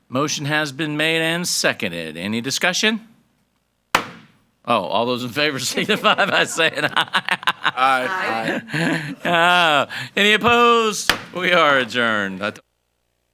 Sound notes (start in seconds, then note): 3.9 gavel bangs; 5.5 chuckles; 10.4 gavel bangs